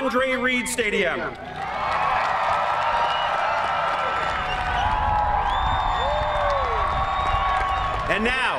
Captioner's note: cheering